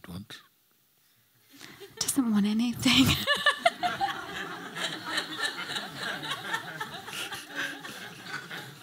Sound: laughter

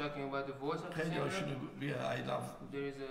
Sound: speaking in farsi

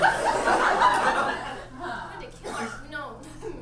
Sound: audience laughs

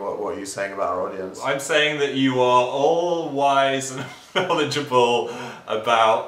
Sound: laughs

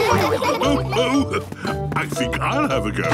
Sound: laughs

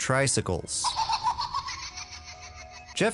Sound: billy laughing

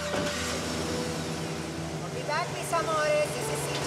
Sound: van engine starts

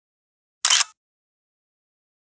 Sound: click!

